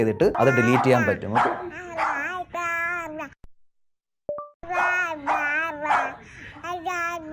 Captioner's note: baby sounds, dog barking; baby sounds